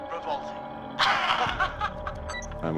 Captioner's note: laughs